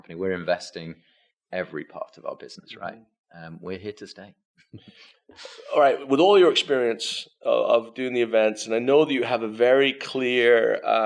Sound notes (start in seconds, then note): none